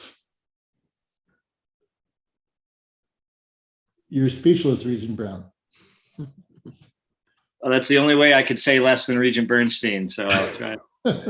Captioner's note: laughs